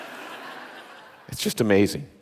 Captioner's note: audience laughing